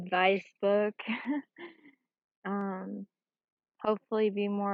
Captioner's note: chuckles